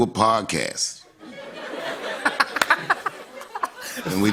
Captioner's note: laughter